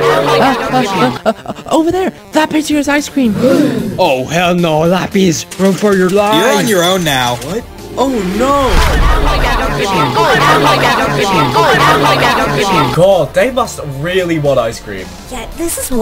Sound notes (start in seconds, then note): 3.4 gasp; 8.0 group complaining